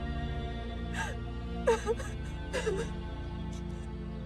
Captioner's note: Maria sobbing